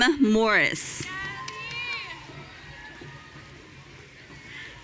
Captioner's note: audience cheering